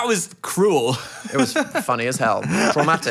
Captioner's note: laughing